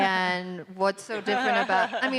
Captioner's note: audience laughing